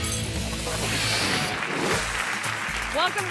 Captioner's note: audience applauds